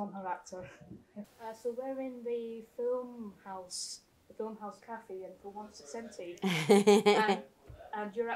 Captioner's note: laughter